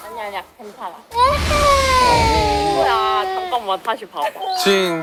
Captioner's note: waaaah